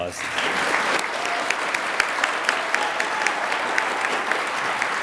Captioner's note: attendees applaud and cheer